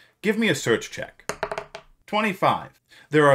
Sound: rolls dice

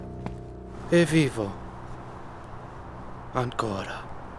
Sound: Leo in Italian

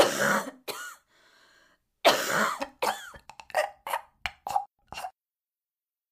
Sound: ARCHIVE CLIP: person choking

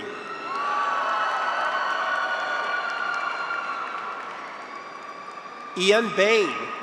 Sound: graduates cheer; audience applauds

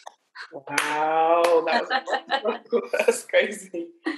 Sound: laughing loudly

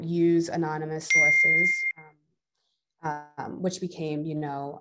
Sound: device beeping

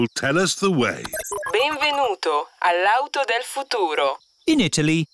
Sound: chuckles; beeps; speaks italian

